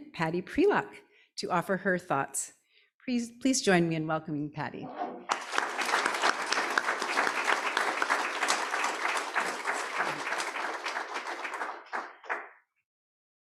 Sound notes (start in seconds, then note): 5.2 audience applauding